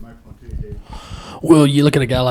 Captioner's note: speaking away from mic